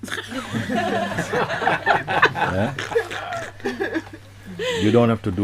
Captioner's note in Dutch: Gelach